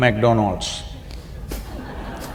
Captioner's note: laughter